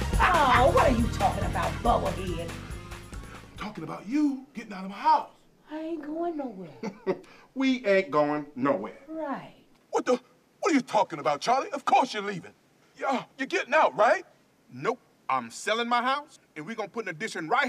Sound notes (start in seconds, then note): 6.7 chuckles